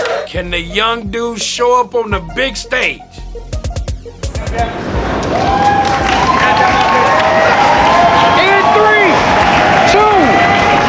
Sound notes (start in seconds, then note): 4.2 crowd Cheering